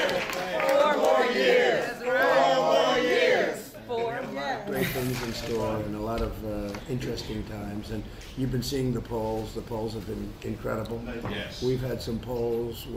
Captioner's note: applause